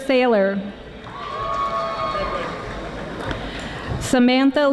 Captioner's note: audience applauding